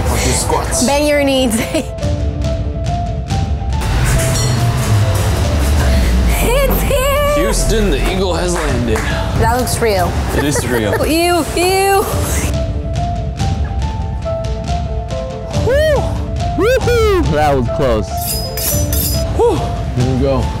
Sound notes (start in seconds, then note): 1.9 laughs; 2.8 upbeat music; 12.8 dramatic music; 18.2 knives sharpening